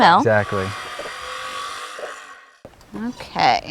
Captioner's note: saw whining, no additional audio